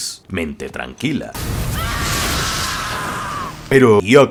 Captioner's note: screams in a not very calm way